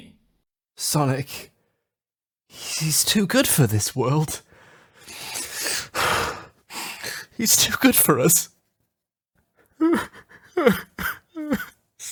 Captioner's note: crying